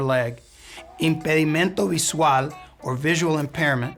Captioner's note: speaking in Spanish